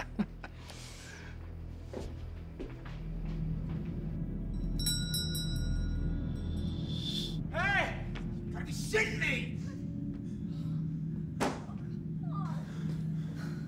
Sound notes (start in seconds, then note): 0.2 ominous music; 4.6 bell ringing; 10.0 ominous music